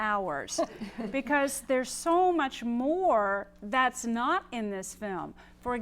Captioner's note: laugh